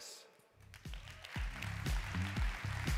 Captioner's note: audience clapping; upbeat music